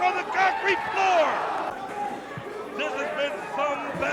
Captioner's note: crowd cheering